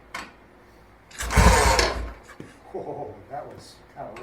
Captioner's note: ratchet noise; engine putts a few times